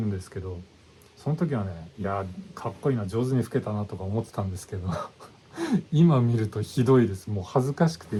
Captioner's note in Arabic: يضحك